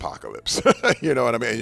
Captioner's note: laughing